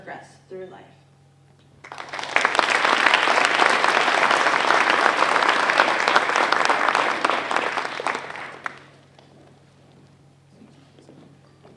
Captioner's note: applause